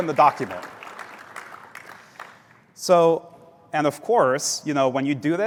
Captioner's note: applause